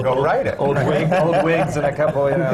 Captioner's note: laughter